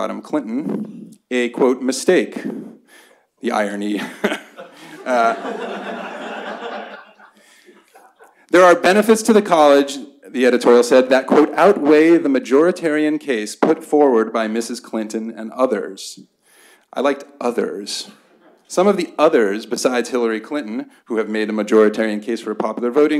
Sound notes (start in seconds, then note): 4.0 laughter